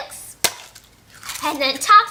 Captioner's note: egg cracks